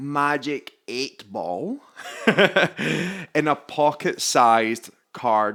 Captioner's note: laughs